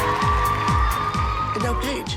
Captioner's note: applause